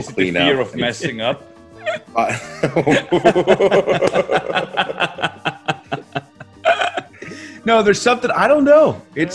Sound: laugh

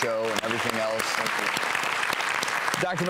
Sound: applause

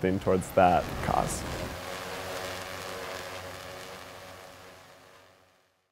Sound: drone whirring

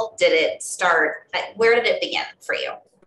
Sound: none

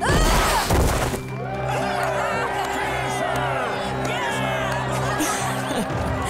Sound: groaning; cheering; chuckles

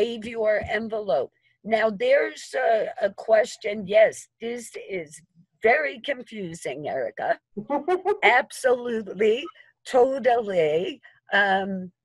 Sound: laughter

